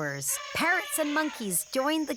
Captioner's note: elephant trumpeting